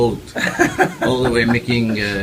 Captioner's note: laugh